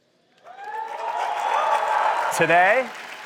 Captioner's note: cheering